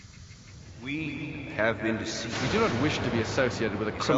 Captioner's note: warped Voices